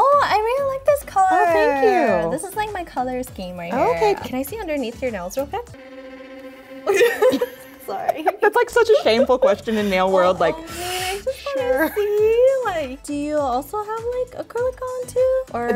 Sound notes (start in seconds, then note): 5.9 dramatic music; 6.8 both giggle